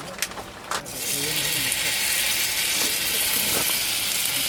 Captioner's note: sound of more meat being put on the grill